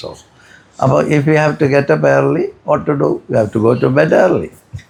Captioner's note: none